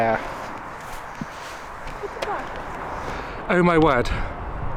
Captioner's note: footsteps